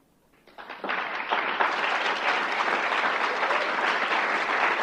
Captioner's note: applause